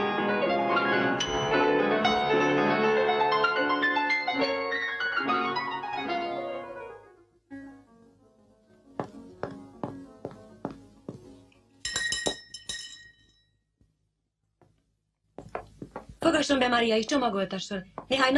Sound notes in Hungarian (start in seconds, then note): 7.4 zongorajáték lassan elhalkul; 12.2 csengőszó